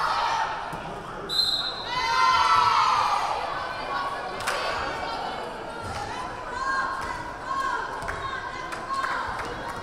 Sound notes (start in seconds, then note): 1.2 whistle blaring; 1.4 crowd cheering